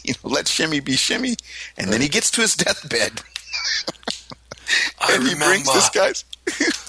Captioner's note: imitating the Godfather